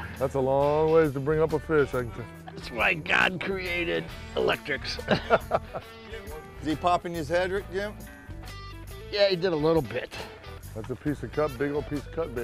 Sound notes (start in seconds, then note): 5.0 laughter